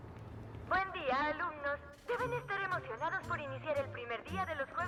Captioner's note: none